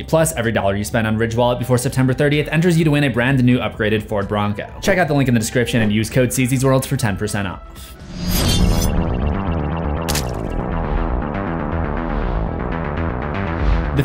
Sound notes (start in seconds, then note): 7.9 air whooshing; 9.3 eerie upbeat music